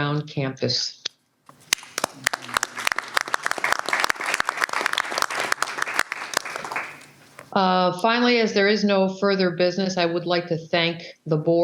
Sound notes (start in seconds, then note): 7.3 applause